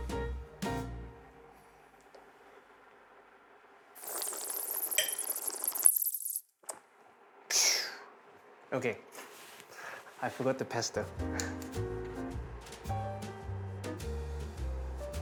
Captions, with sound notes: [slurps] Phew! Okay, I forgot the pesto.